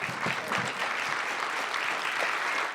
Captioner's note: applause